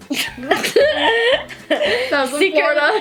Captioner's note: laughing